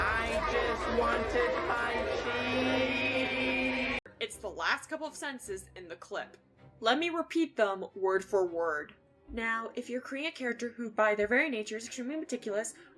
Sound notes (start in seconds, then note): 8.3 putting on a voice